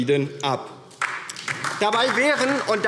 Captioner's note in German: Beifall DIE LINKE